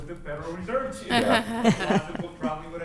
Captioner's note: laughter